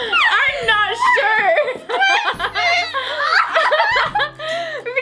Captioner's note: laughing